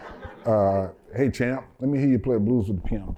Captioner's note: laughter